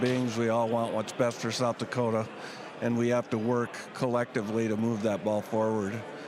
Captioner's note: none